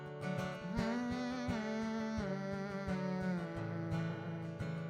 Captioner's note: hums with guitar